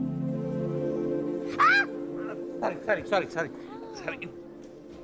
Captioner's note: screaming